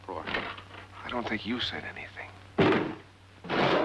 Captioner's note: whispering